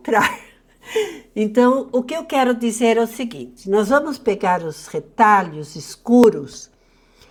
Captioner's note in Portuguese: risos